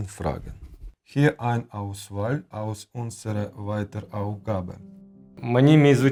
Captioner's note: speaking german